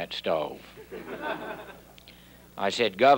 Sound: audience laughing

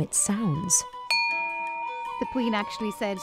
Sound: crystal ringing

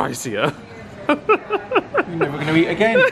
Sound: laughs

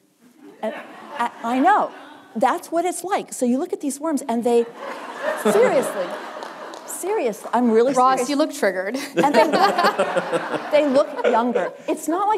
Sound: laughter

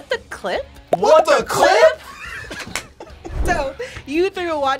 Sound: laughs

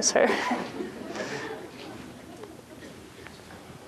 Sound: laughter

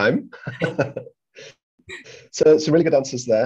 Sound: laughing

